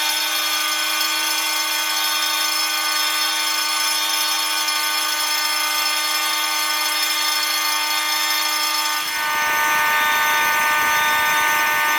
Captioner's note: alarm Stops